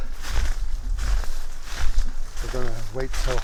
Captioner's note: crackling footsteps